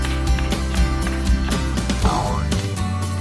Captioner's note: applause